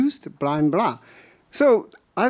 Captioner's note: speaking in a foreign language